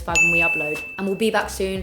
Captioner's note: bell chimes